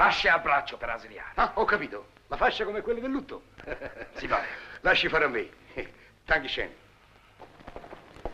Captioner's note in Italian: ridendo